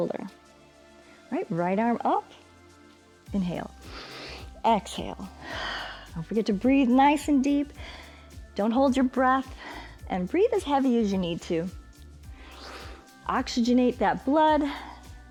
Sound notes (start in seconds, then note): 3.8 exhales; 5.3 inhales